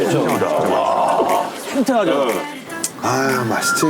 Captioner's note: gulp